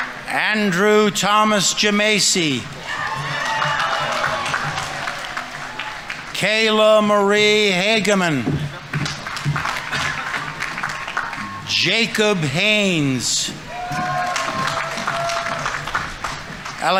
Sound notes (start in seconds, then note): 0.0 audience applauding; 0.0 audience members cheering; 2.4 audience members cheering; 2.7 audience applauding; 13.4 audience members cheering; 13.6 audience applauding